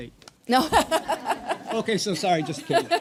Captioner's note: people laughing